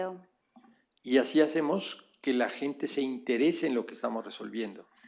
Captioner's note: speaking spanish